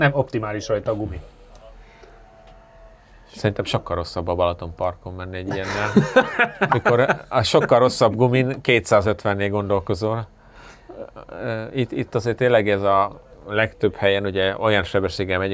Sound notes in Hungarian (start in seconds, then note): 5.4 nevetés